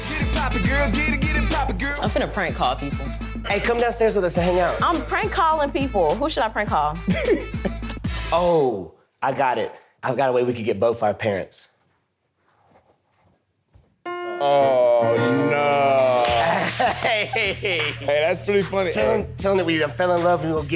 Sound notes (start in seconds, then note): 7.1 giggling; 14.0 wedding music; 16.1 laughing